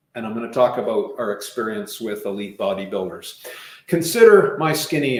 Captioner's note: none